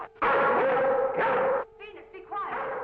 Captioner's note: Venus barking